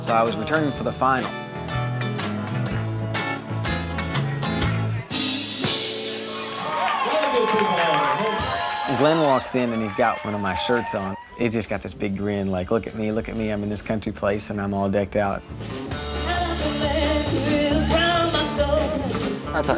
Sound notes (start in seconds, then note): 6.2 audience applauds